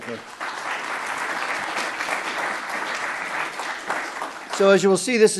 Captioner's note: audience applauding